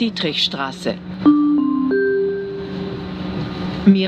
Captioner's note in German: Gong